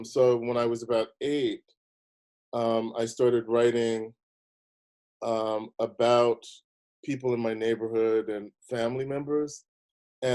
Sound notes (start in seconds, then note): none